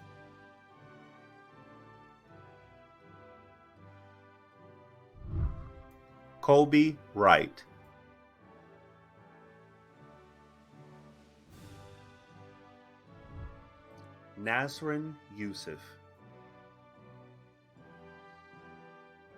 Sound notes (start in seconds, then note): 0.2 celebratory music; 5.1 whooshing; 8.3 celebratory music; 16.3 celebratory music